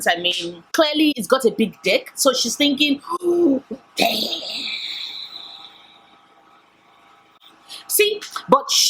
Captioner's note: oooooh damn!